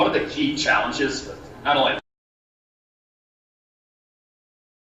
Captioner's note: silence